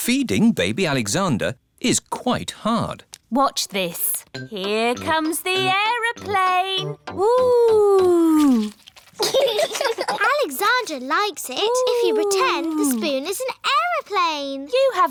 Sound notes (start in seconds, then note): 9.2 laughter